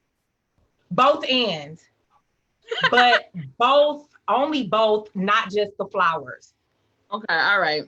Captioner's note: laughs